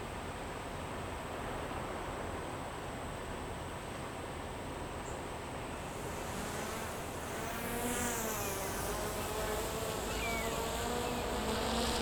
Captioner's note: wind blowing